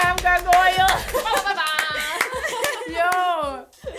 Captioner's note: clapping; laughter